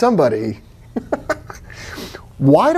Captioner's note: giggling